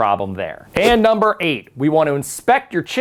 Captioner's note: letters whoosh